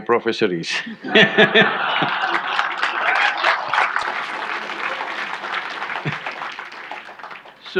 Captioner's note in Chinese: 眾笑